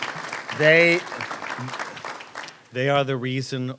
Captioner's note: applause